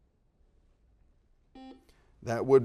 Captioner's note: beeps